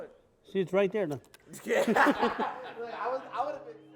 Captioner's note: laughing